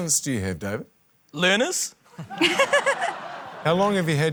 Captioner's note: laughter